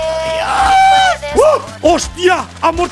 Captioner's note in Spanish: grita